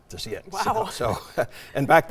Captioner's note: laughs